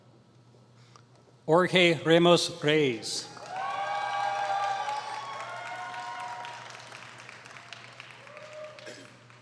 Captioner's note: applause